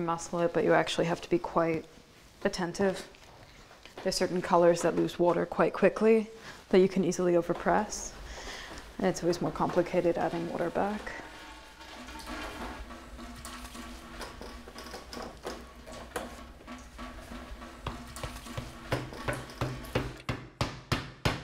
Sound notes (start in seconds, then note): 12.4 press clanks; 12.4 water plashes; 17.2 mallet thuds